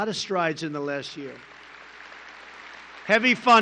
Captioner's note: applause